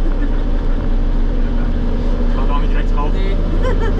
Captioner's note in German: lacht